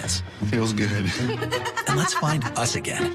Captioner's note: laughs